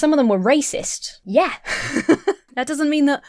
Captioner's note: laughs